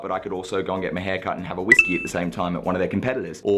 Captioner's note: beep